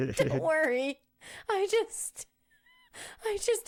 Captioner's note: laughing